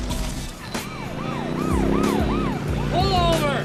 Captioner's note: police siren blaring